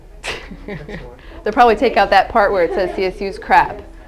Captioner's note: laughs